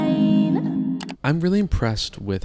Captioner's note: mouse clicking